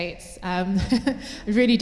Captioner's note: laughter